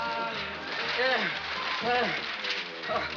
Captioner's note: gasping